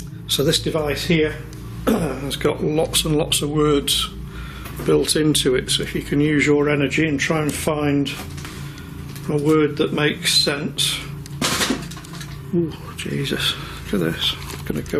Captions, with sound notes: - So this device here, (clears throat) has got lots and lots of words built into it so it can use your energy and try and find a word that makes sense. (rattling sounds) Oh, Jesus. Look at this,